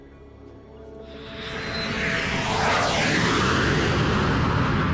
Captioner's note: plane whooshing